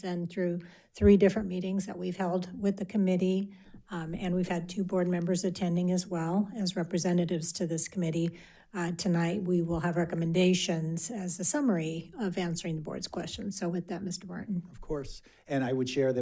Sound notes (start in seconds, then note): none